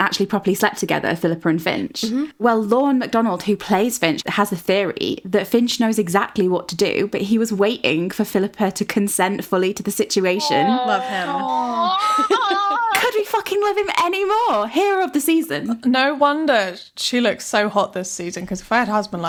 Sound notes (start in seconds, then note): 10.3 awwing